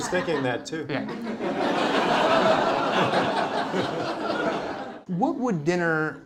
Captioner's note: laughter